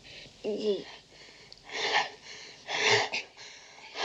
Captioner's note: breathing heavily